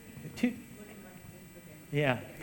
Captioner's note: speaking off mic